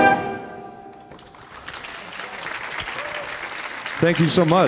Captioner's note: audience applauding